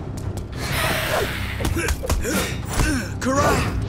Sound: grunting

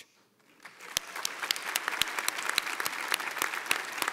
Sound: audience applauds

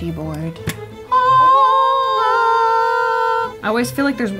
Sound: all screaming

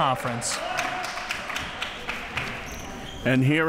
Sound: crowd clapping

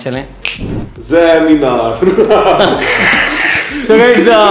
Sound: laugh

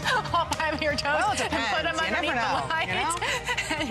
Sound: laughter

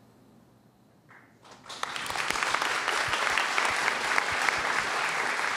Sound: applause

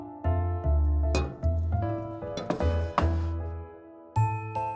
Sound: glass clinks softly

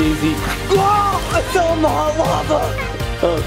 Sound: exclaims

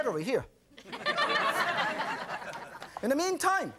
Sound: audience laughing

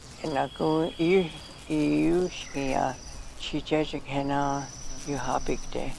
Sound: speaks in foreign language

